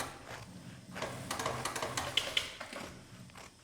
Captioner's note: sewing machine clicks in the background